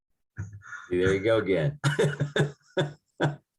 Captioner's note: laughing